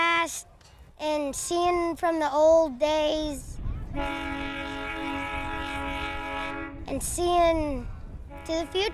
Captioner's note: train whistle